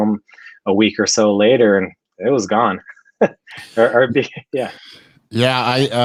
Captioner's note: laughs